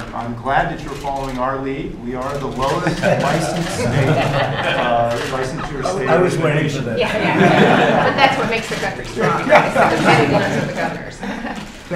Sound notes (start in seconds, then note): 2.7 laughter